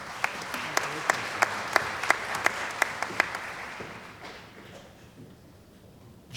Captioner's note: applause